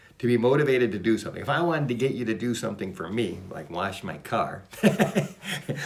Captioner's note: laughs